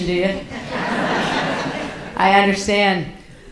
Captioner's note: audience laughs